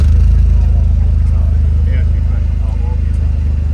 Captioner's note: engine reeving